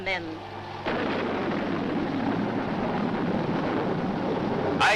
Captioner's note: thunder crashing